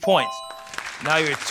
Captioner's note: applause